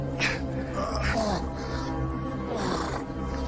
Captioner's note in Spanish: Quejidos